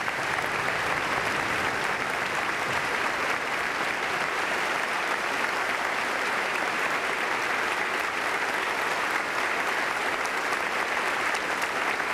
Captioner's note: applause